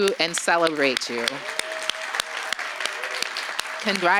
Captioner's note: applause